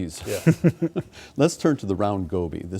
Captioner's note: laughing